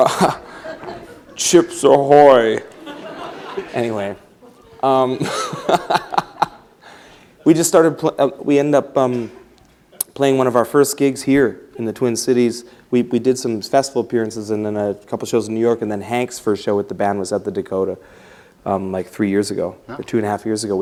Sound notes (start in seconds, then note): 0.0 laughter; 2.6 laughs; 4.4 laughter; 7.7 laughs